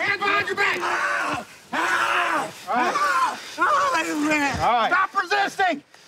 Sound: screaming

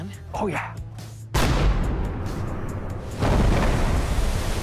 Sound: gun banging

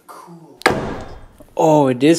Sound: thump

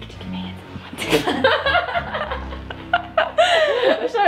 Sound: laughing

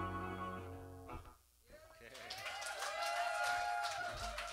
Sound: cheers and applause

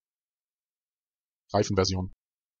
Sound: fast Pronunciation

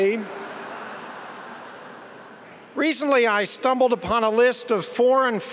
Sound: laughter

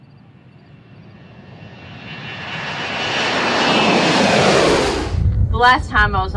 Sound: airplane engine roaring

